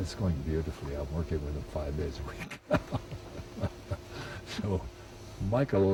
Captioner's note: chuckles